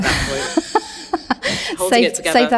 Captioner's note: laughing